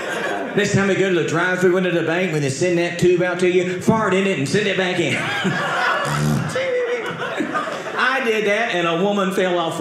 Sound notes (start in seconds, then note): 5.0 audience laughing